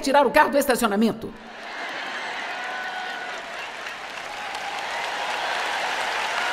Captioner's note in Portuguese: audiência aplaude